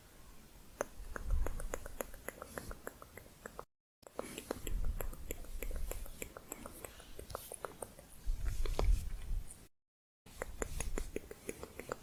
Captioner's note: tongue clicking